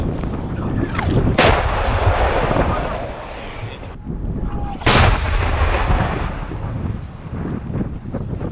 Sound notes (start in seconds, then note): 1.0 sound of gunshots